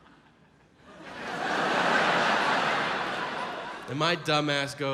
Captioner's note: audience laughs